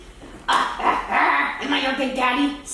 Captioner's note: grunting